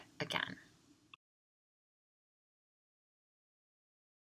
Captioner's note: film--no sound